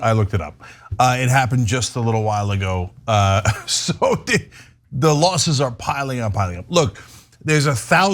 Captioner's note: laugh